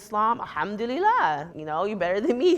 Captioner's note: speaks in foreign language